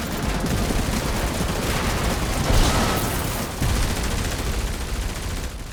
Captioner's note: rapid gunfire